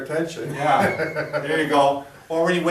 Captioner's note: laughing